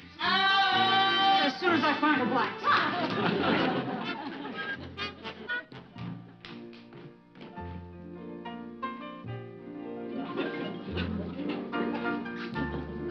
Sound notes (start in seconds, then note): 2.7 audience laughing; 3.5 upbeat music continues; 6.7 audience laughing; 6.7 peaceful music